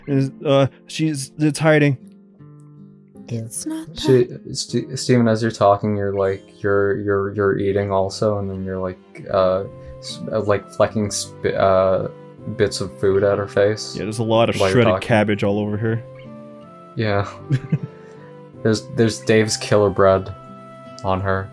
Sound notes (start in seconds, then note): 17.3 titters